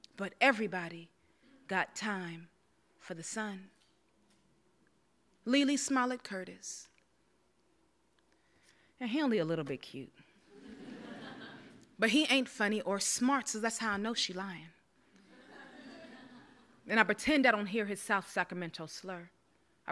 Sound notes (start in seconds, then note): 10.5 audience laughs; 15.3 audience laughs